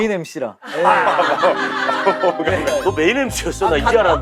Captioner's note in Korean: 웃음